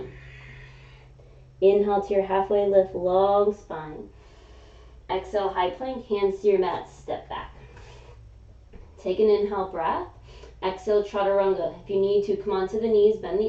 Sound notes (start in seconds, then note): 0.0 exhaling; 4.2 inhaling